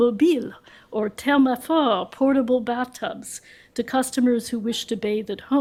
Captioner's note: french